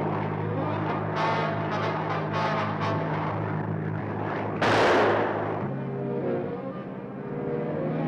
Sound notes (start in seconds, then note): 4.6 rifle fires